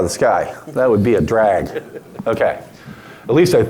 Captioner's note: audience laughing